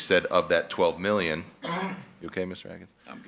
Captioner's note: coughing